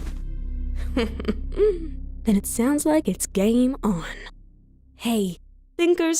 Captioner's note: laughs under breath